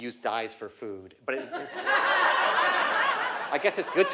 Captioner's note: laugh